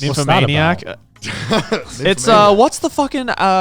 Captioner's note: laughing